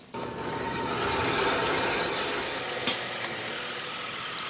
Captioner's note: machine whirring